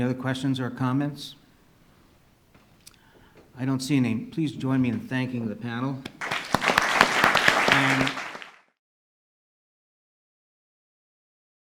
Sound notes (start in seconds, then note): 6.2 audience applauds